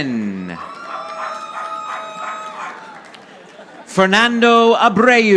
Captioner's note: audience applauding